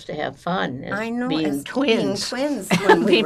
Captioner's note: laughing